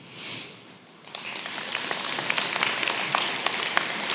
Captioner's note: applause